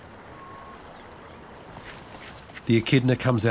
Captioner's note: bird calls faintly